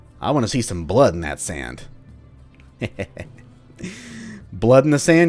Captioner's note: evil chuckle